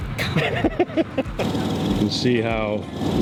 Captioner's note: chuckles